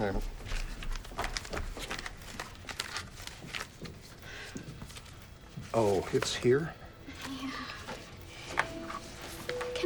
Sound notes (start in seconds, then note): 0.4 paper rustling; 7.2 somber music